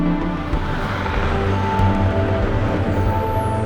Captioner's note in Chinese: 很好聽的引擎聲~~~~~